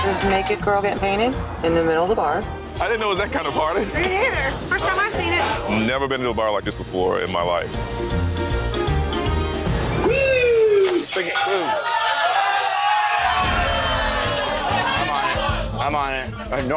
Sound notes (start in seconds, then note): 10.8 glass shattering; 12.2 all cheering